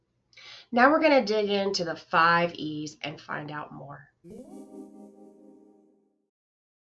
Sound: electronic sound

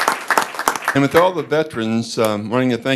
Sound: applause

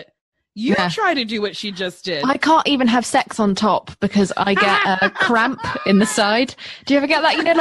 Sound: laughter

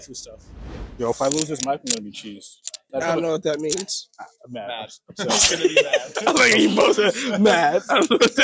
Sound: laughter

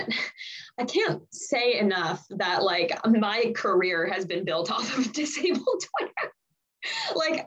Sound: laughs

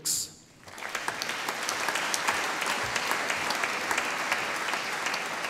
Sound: audience applauding

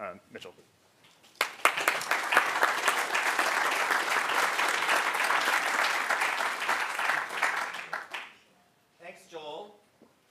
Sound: applause

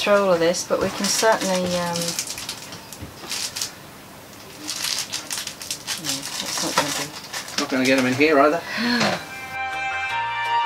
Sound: sighs

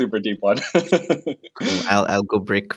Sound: laughs

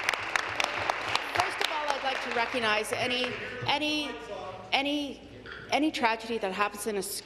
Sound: applause

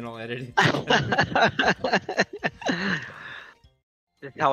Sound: laughter

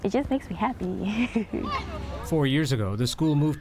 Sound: laughter

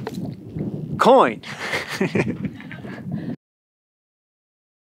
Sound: all chuckling

